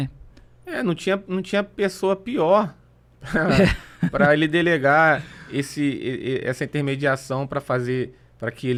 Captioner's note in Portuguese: risadas